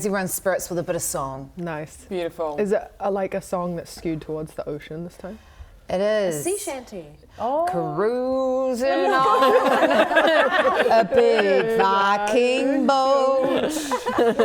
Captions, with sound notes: everyone's spirits with a bit of song Nice Beautiful Is it like a song that's skewed towards the ocean this time? It is A sea shanty! Ohh Cruising on *laughing* a big, viking boat